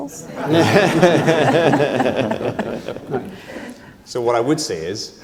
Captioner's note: laugh